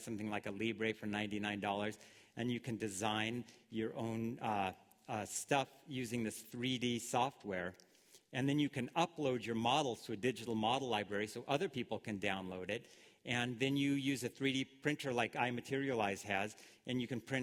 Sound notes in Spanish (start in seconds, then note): none